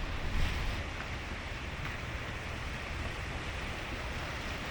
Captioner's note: water rushing